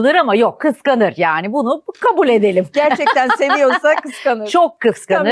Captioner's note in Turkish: kahkaha